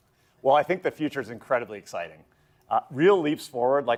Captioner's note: none